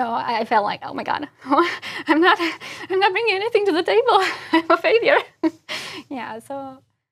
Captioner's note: laugh